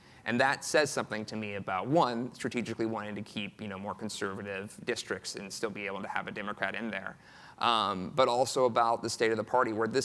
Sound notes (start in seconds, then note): none